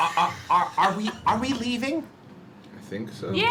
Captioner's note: laughs